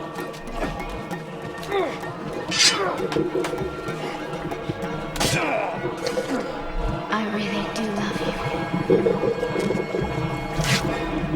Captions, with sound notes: (sword unsheathed) (stabbing) I really do love you. (snick)